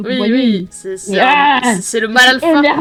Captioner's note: Mel growls